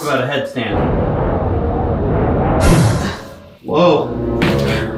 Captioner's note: wind howling